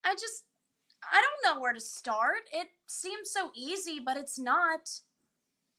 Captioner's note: none